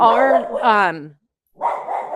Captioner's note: incessant barking